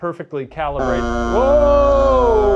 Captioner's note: Spirit Box blaring